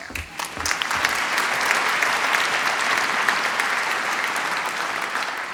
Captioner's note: applause